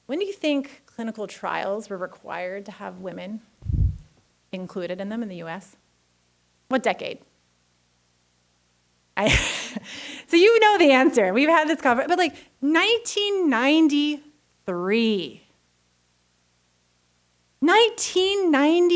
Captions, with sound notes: when do you think clinical trials were required to have women included in them in the US, what decade? (laughs) So you know the answer. We've had this con-, but like 1993. 1993.